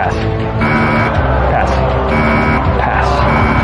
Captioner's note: buzzer sounds